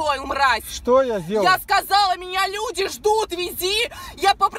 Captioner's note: breath